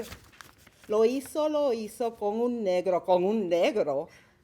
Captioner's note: speaking Spanish